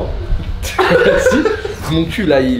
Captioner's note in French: rires